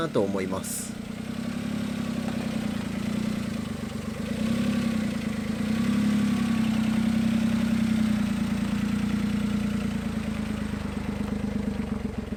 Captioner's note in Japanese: エンジン音